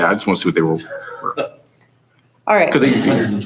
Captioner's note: chuckling